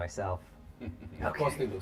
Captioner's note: David laughs